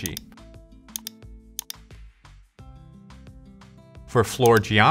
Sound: mouse clicks

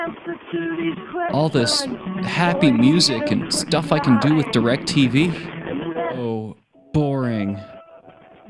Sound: sarcastically

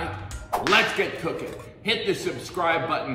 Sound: whip cracking

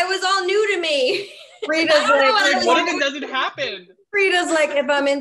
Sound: all laugh

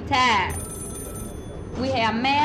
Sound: telephone ringing

